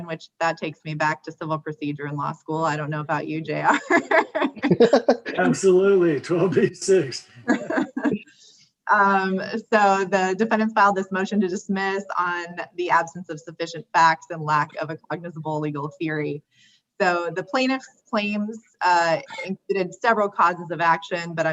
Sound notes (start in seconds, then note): 3.6 laughs